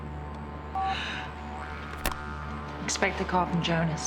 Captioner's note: phone beeping